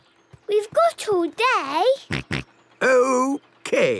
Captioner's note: snort